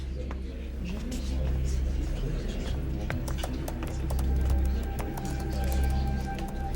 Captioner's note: overlapping chatter; ominous music begins